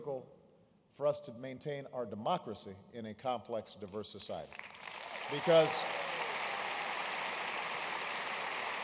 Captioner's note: applause